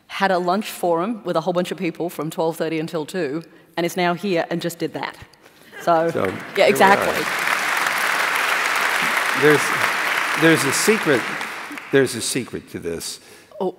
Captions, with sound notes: had a lunch for him with a whole bunch of people from 12:30 until 2:00, and is now here and just did that. So, yeah, exactly. So here we are. [APPLAUSE] There's a secret. There's a secret to this.